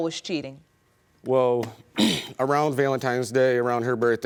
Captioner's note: clears throat